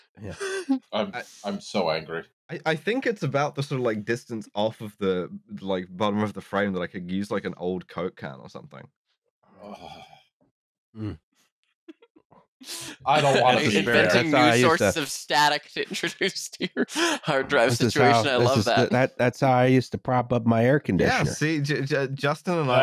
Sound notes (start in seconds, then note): 9.6 sighs disgustedly; 16.7 laughs